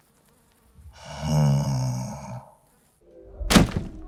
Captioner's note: snoring